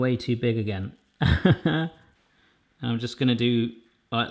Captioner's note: laughs